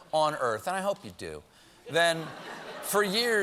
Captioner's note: laughter